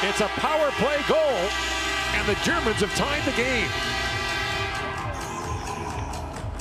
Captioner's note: horn sounding